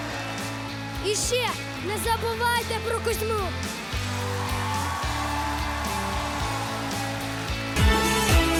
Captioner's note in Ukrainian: оплески